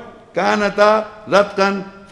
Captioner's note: Arabic